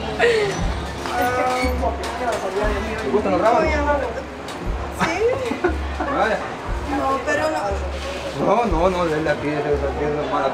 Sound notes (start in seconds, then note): 0.0 laughter; 5.0 laughs